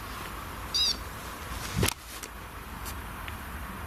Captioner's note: device beeps